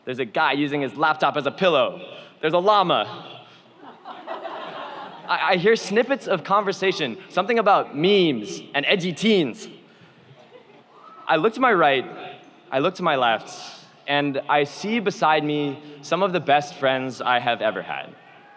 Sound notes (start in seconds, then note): 3.7 audience laughs